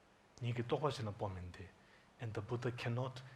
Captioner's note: speaking foreign language